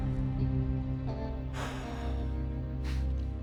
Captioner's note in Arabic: تنهدات عميقة